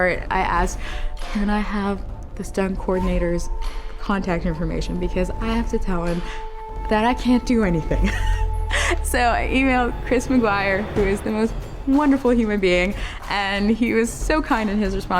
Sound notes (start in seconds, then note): 7.9 laughing